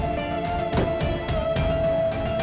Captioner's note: car door closes